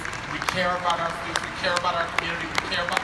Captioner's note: audience applauding